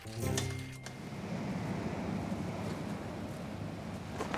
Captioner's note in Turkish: Dalga sesleri